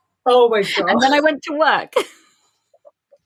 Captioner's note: laughing